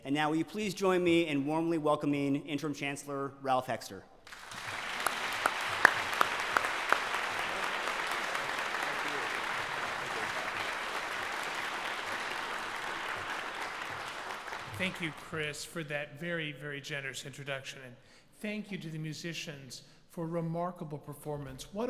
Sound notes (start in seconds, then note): 4.2 applause